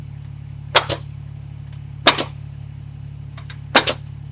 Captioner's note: tool stapling